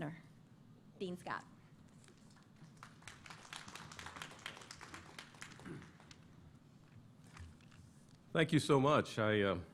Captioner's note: applause